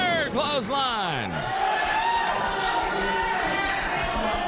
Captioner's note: crowd cheering